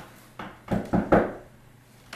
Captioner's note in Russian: стук в дверь